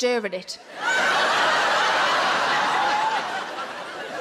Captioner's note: audience laughs